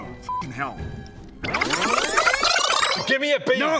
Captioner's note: brrrzzzzzzzzzzzzzzzz